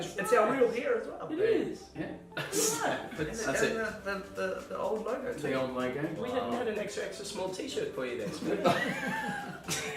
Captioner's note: laughing